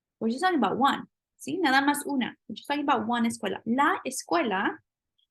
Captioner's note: spanish